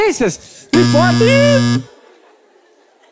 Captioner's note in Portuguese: campainha